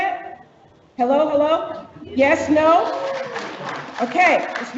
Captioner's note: audience cheers